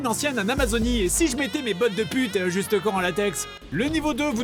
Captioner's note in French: Voix féminine